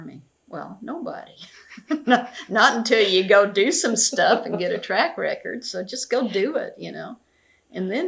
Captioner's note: laughs